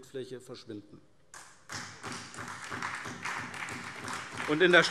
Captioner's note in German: Beifall SPD